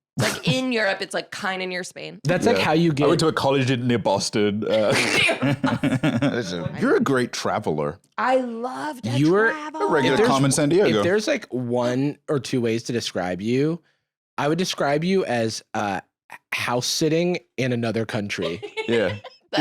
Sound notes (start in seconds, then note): 4.6 laughing